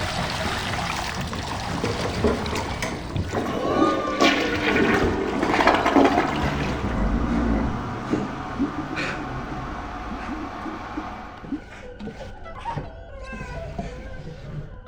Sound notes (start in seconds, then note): 3.6 toilet flushing; 4.7 toilet sputtering; 11.4 voices squeaking